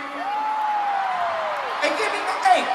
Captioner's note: crowd cheering